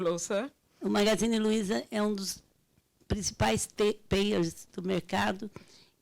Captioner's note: speaking Portuguese